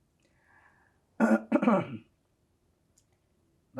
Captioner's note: clears throat